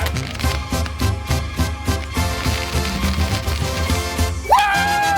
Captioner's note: fireworks crackling